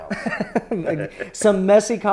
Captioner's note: laughs